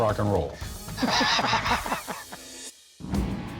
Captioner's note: laughter